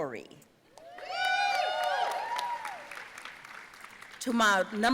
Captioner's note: audience cheering and applauding